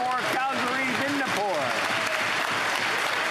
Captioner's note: applause